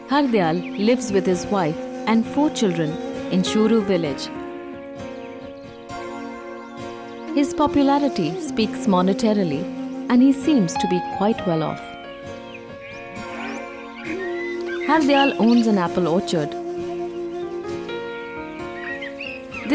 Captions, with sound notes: Hardayal lives with his wife and four children in Shuru village. (gentle music) (birds chirpping) His popularity speaks monetarily and he seems to be quite well-off. (gentle music) Hardayal owns an apple orchard. (gentle music) (birds chirpping)